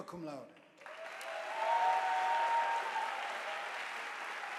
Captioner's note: audience applauding